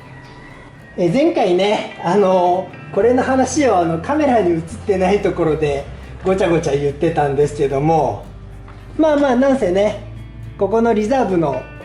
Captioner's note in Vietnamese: cười